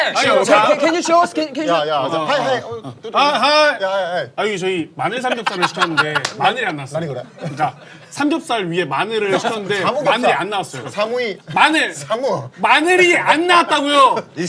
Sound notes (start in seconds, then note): 3.0 in Japanese; 6.9 in Japanese; 9.6 in Japanese